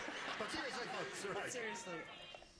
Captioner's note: laughter